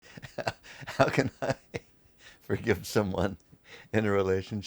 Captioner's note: laughs